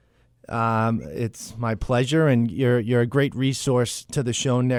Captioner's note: voiceover